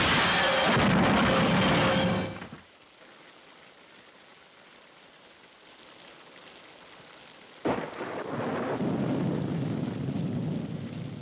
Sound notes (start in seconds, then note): 0.0 car crashing; 2.8 rain pattering; 7.7 thunder cracking